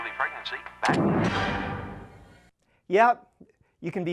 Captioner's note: whoosh